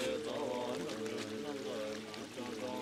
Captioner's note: chanting